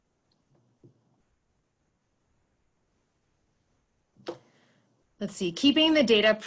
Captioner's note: silence